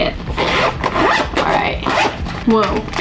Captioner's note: unzipping